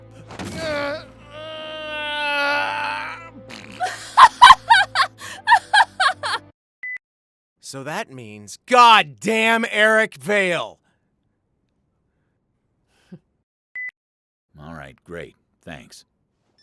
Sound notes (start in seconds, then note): 3.3 scripted laughter; 3.4 mouth fart